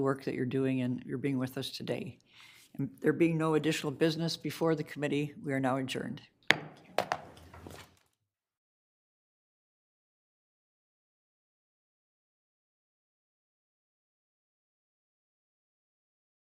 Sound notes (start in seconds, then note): 6.5 gavel thudding